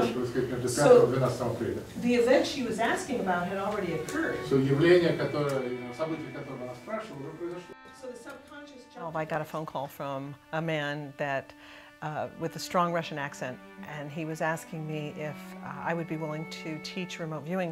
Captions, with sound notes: So the event she was asking about had already occurred. [MAN SPEAKING RUSSIAN] Well, I got a phone call from a man that, uh, with a strong Russian accent, and he was asking me if I would be willing to teach remote viewing to Russians.